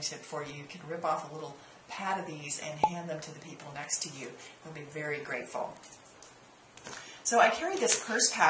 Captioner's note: pop